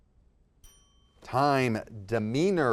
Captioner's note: bell ringing